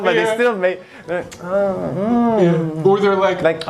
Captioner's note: murmurs